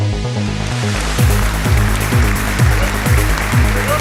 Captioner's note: applauding